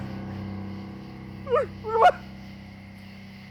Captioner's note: crying